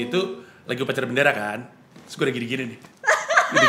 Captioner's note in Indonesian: ketawa